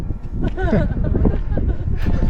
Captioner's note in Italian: risata